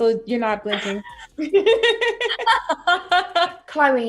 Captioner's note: both laughing